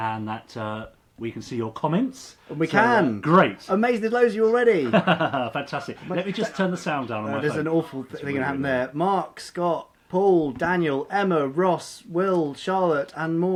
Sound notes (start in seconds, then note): 4.8 laughing